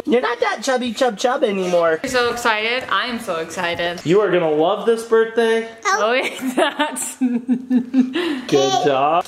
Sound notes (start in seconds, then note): 6.3 laughing; 6.3 laughs